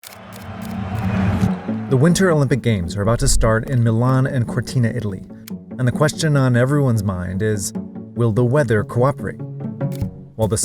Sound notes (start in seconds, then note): 0.0 camera clicking; 0.0 tense music